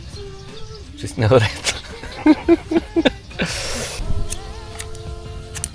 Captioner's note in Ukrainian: сміх